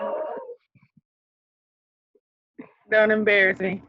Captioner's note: laughs